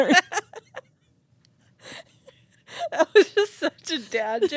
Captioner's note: both laughing